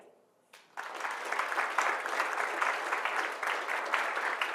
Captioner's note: applause